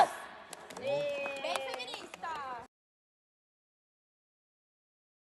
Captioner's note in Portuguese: aplausos